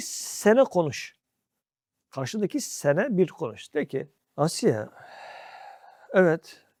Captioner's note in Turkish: iç çeker